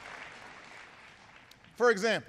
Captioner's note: applause